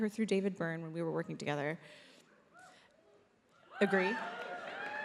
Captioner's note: audience cheers